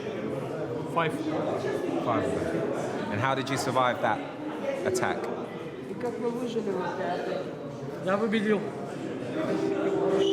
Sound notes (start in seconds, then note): 5.9 translator speaking in foreign language; 9.4 gentle pensive music